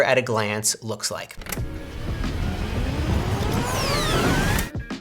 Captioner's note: accelerating sound